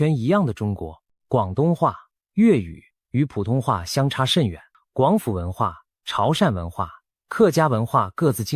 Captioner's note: guangdong dialect